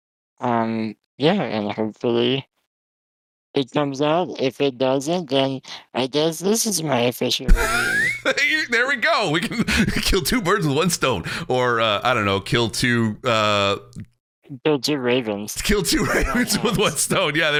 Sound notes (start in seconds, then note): 7.5 chuckles; 15.8 laughs